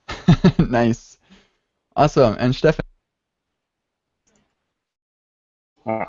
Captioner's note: laughs